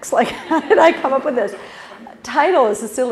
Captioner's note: laugh